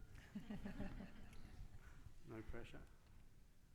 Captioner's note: all laughing